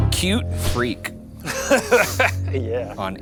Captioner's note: both laughing